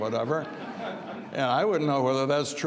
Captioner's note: audience laughs